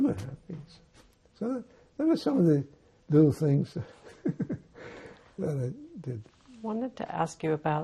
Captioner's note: laughing